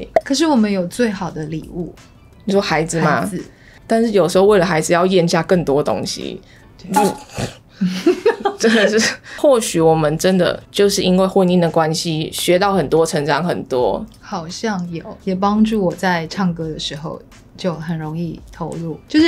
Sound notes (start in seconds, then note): 6.9 vomit